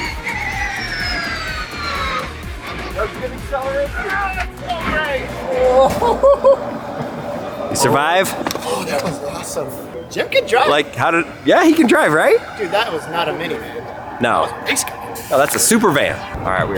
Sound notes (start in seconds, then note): 0.1 car whirring; 4.4 claps